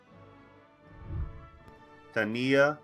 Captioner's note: celebratory music; whooshing